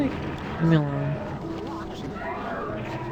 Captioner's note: quietly